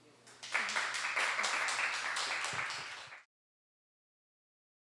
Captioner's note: applause